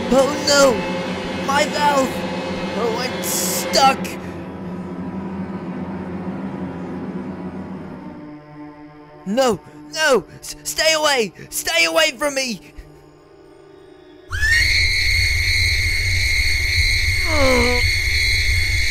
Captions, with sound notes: Oh no! My valve! Oh, I'm stuck! No, no! Stay away! Stay away from me! (HIGH PITCH SCREAM AND RUMBLE)